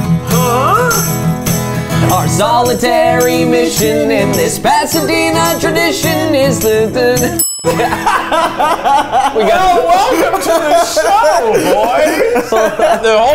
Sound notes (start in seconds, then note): 7.3 ding sound; 7.7 laughs